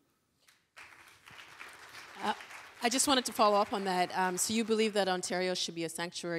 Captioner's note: applause